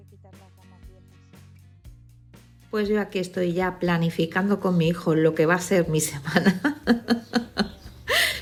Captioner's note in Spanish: risas